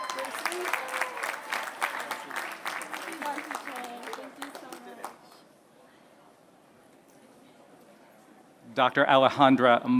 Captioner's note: applause